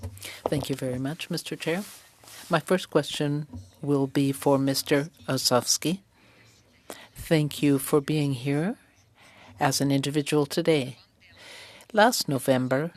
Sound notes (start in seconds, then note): 9.5 speaking French